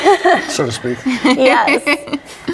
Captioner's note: all laugh